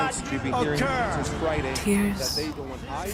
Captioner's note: agitated crowds shouting